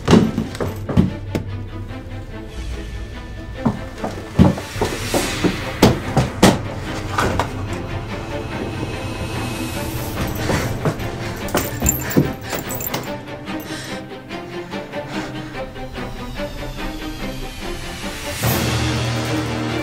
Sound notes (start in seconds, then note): 0.1 dramatic music; 5.4 banging; 8.2 dramatic music; 12.3 chains rattling; 16.2 dramatic music